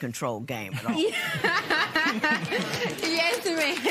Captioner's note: laughter